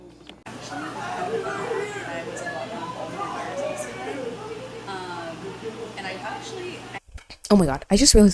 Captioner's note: people chatting really loudly outside